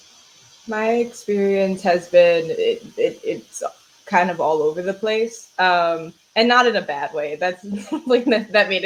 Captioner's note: laughs